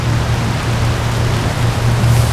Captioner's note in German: Regenprasseln